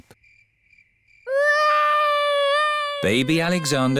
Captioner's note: baby alexander crying